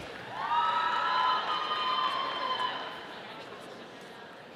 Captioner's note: audience cheering